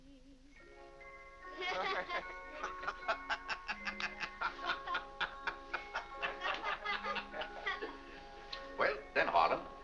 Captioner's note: soft music; family laughing